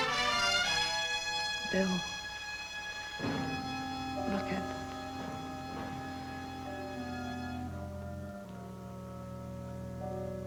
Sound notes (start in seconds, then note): 0.6 dramatic music; 0.6 thudding; 6.2 dramatic music